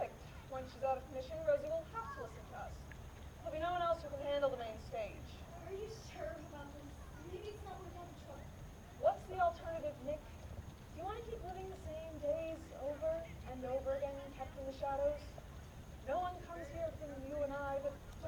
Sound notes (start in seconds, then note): none